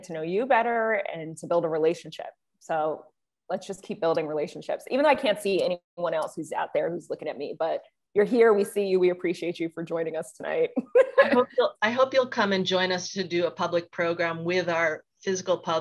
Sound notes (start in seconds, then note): 10.9 laughs